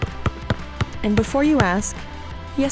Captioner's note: basketball dribbling